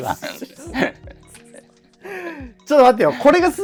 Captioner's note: laughing